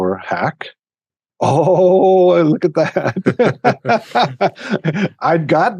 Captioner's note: laughs